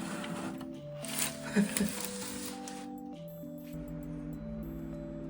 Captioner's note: hahahaha